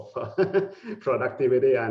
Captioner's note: laughing